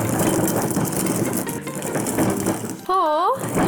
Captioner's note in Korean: 여전히 덜컹덜컹